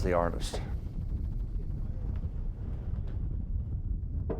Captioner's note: wind blowing